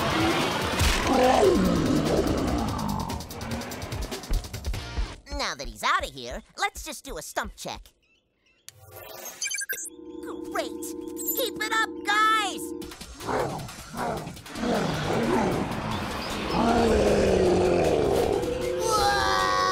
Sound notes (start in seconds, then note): 1.0 grumbles; 13.2 cyclops roaring; 15.7 roaring